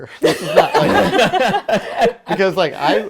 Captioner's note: laughing